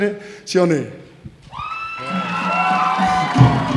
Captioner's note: cheering